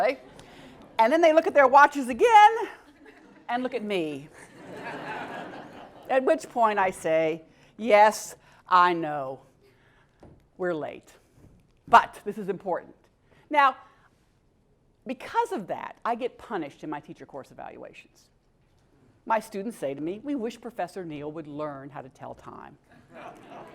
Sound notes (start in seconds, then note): 4.5 laugh; 23.0 laugh